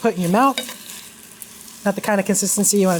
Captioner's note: pan sizzling